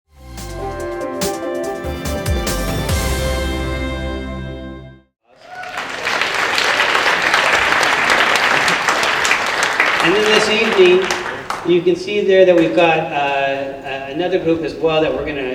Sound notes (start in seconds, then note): 5.3 applause